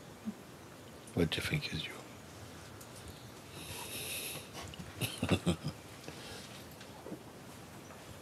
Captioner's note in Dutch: lacht